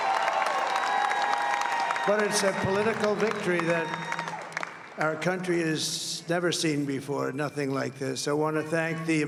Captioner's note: applause